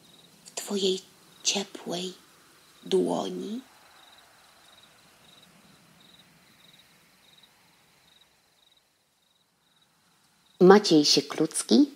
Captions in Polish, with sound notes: w twojej ciepłej dłoni. [cykanie świerszczy] Maciej Sieklucki